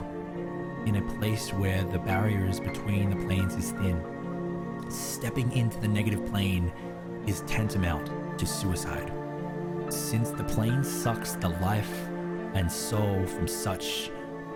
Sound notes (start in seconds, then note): none